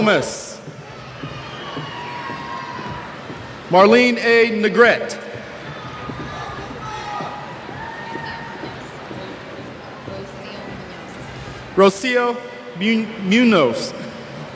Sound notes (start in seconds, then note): 0.9 cheers; 5.6 cheers